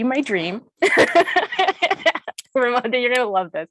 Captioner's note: laughs